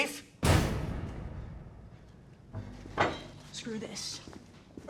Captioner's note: mysterious knocking